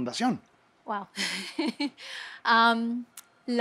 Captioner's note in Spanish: Ríe